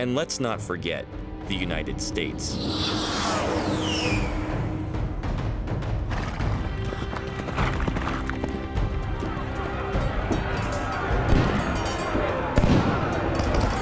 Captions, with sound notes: And, let's not forget, the United States. (shouting and clanging of steel)